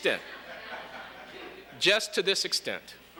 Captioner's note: light laughter